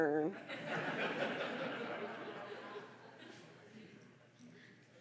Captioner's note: audience laughing